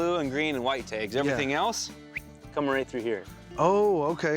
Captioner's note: whistles